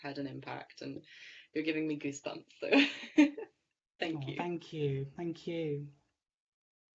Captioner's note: laughing